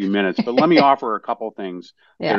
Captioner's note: laugh